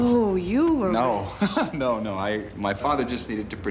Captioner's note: laughs